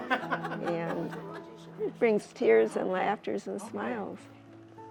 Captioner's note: people laughing